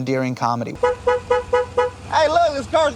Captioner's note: car horn honking